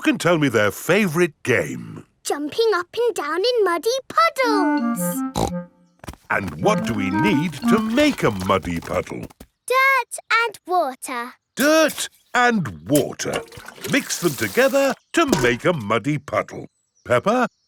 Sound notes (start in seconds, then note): 5.3 snorts